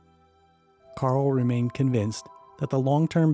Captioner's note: voiceover